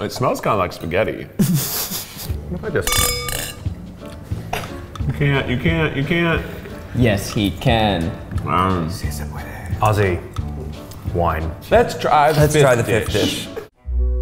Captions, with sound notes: - It smells kind of like spaghetti. (laughter) (glasses clinking) - You can't, you can't, you can't! - Yes, he can! - Aussie. Wine. - Let's try the fifth dish.